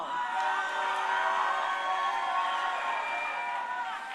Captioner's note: crowd cheering